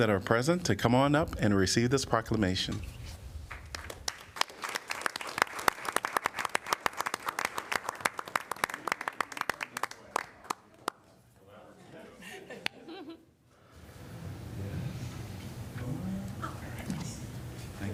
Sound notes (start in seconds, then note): 3.4 applause